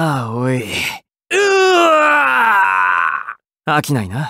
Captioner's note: Funny KO scream